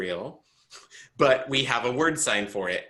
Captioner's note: chuckles